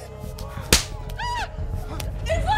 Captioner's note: Slaps